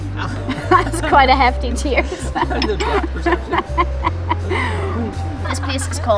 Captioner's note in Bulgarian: Смее се